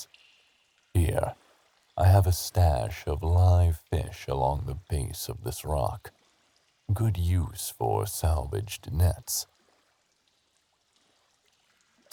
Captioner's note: scoffs